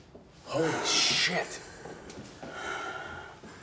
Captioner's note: whispers